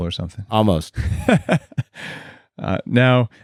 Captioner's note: laughs